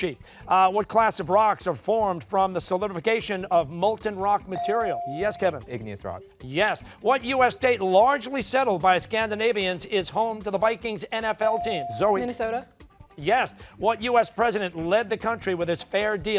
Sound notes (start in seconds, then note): none